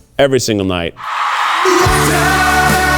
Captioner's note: audience cheers